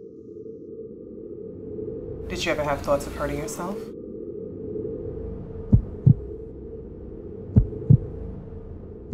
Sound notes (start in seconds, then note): 0.2 dramatic music; 5.8 heartbeat